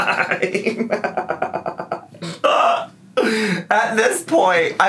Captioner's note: laughing